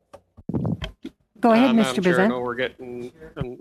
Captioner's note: speaking French